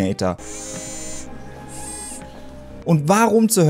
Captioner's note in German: Mechanisches Geräusch